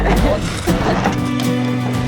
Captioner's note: shoveling dirt